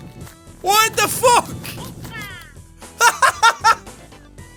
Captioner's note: laughs